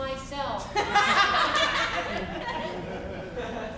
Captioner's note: group laughs